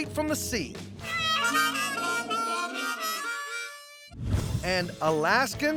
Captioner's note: horn sound